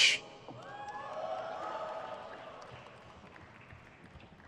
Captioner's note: crowd cheers